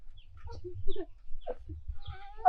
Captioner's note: groaning